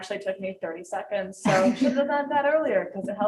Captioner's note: group laughing